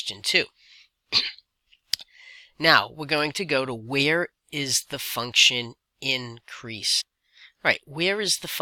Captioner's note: cough